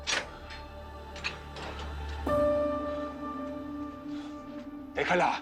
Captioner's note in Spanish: Sonido al abrir puerta